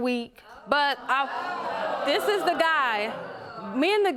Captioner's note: audience groans